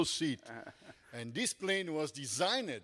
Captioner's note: panelist chuckles